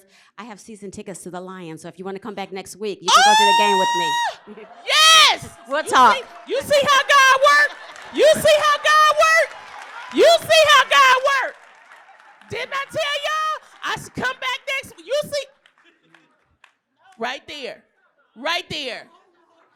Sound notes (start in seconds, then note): 3.9 laughter; 11.6 applause